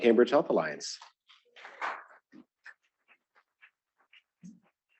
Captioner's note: applause